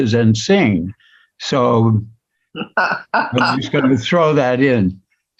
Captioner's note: laugh